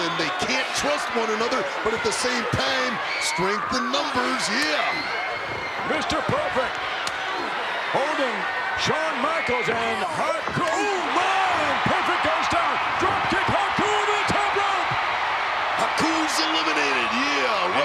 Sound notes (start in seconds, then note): 14.7 crowd shout